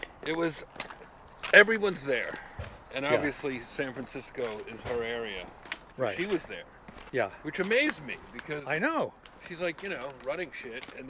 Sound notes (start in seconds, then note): none